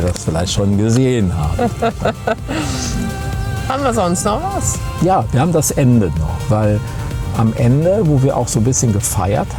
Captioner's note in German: gelächter